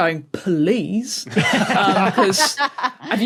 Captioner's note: others laughing